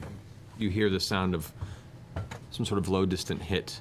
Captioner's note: thump-crash